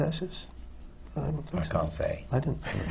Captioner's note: laughs